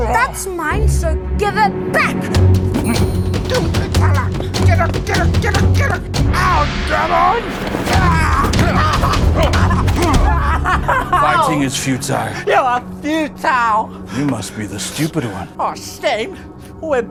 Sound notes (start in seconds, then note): 2.5 intense music; 9.3 yells, grunts